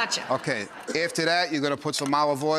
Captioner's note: laughing